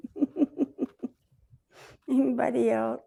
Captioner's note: laughs